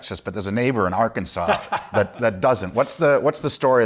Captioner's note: laughs